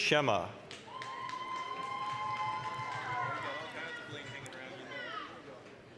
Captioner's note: applause, cheering